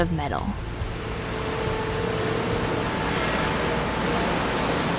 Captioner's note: machinery whirring